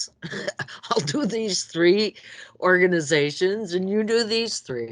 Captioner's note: laughs